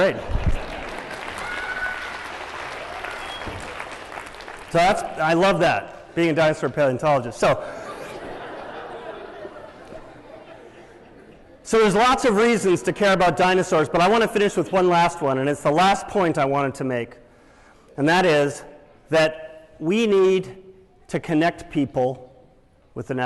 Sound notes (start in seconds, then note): 0.2 applause; 7.6 laughter